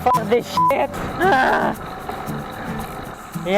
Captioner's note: intense grunting ensues